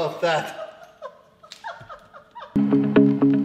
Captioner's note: laughing, struggling to breathe